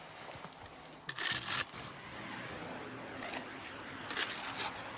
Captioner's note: scratching noises, distant traffic noises